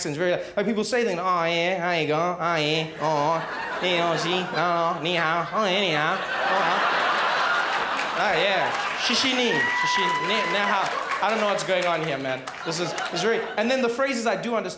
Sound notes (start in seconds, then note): 3.0 speaks more and more slowly until gibberish; 5.6 crowd laughs; 9.2 speaks Chinese